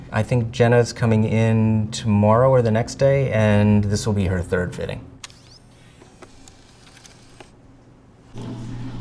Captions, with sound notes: I think Jenna's coming in tomorrow or the next day, and this will be her third fitting. [machine clicking]